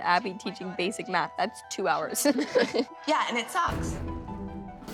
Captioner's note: laughs